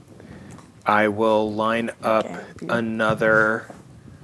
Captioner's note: quietly